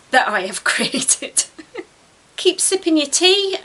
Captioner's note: laughs